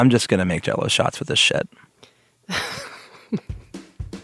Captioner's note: laughs